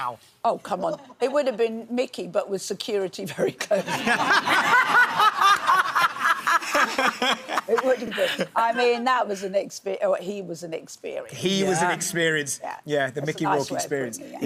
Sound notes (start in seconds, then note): 3.8 laughing; 3.8 audience laughs